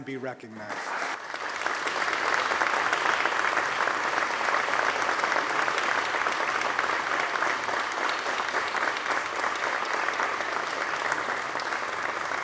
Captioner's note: applause